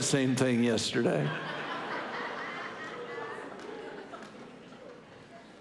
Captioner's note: congregation laughing